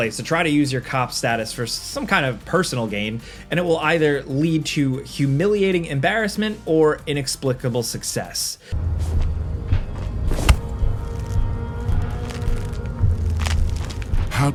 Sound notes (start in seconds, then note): 8.7 dull music; 10.3 attack hits; 11.9 bones cracking